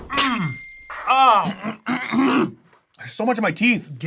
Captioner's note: grunts